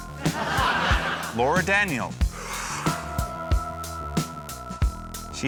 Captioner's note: laughter; exhales deeply